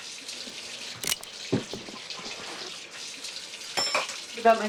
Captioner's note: gun clicks